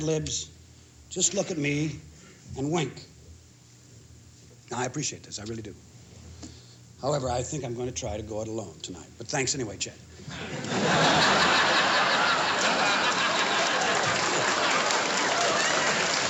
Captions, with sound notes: libs, just look at me and wink. I appreciate this. I really do. However, I think I'm going to try to go it alone tonight, but thanks anyway, Chet. [LAUGHTER] [APPLAUSE]